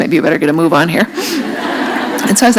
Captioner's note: laughter